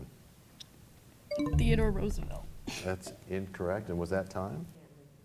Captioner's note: bell chimes